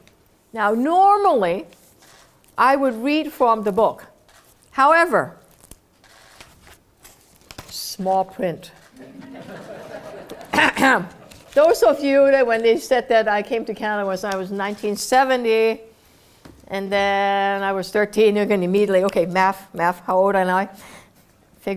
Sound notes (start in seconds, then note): 9.0 laugh; 10.5 cough